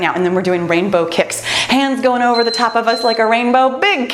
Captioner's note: timer beeps